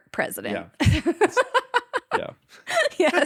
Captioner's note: laughing